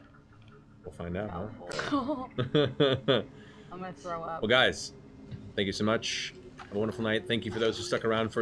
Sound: chuckles

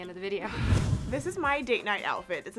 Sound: whoosh

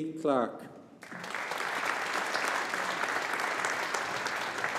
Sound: audience applauding

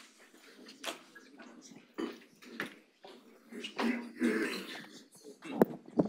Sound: audience chattering faintly

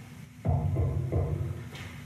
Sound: knock on door

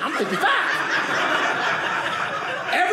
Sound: audience laughing

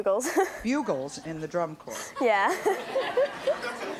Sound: laughs

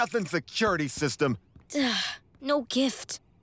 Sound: sighing

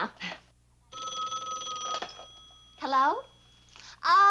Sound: phone rings

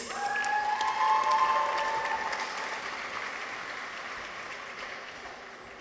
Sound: people cheer; audience applauds

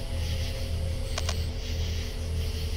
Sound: camera glitch sound out of night vision

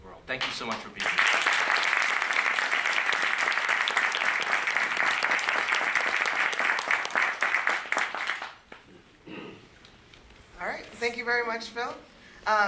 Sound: applause

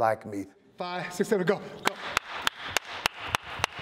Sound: claps

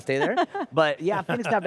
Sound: laughs

